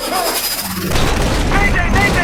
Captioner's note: voiceover; explosion; voiceover